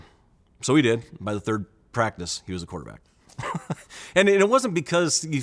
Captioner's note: chuckle